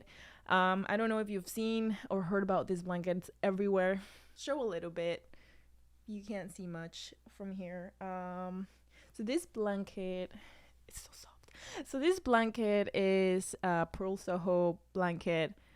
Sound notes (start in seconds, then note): 10.0 whispers